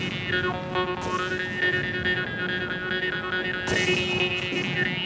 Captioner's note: rhythmic mouth harp music; guns bang